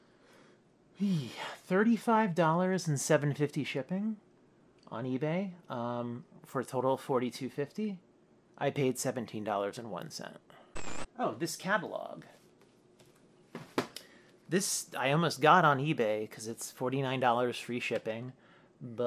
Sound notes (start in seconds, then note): 10.7 static